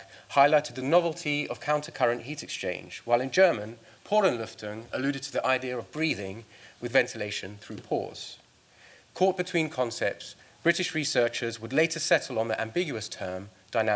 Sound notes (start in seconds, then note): 0.0 speaking norwegian; 3.9 speaking german